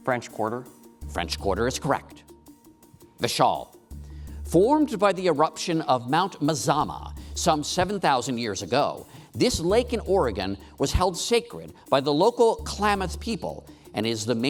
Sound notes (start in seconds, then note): none